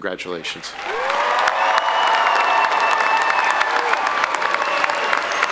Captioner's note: audience applauding